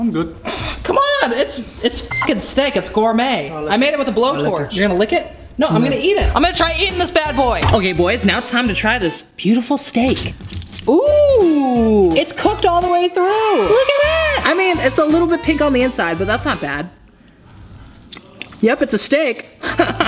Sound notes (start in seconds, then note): 13.6 cheering; 19.6 laughs